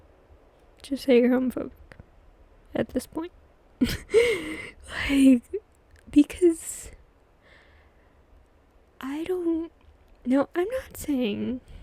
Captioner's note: laughs